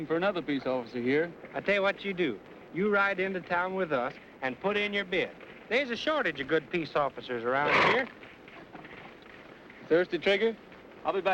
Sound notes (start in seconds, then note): none